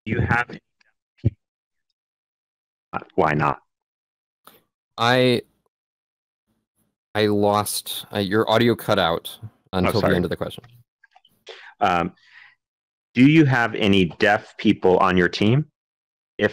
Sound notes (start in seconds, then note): 3.1 audio drop